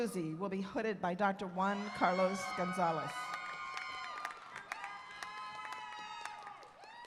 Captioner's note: cheers and Applause